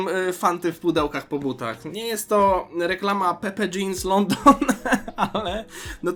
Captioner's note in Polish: śmiech